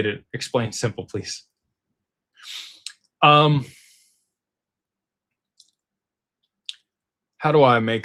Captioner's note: snorts